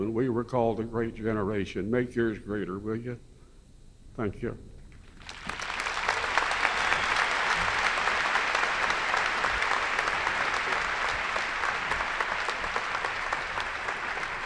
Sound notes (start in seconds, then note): 5.2 enthusiastic applause